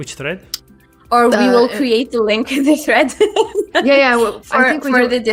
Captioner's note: laughs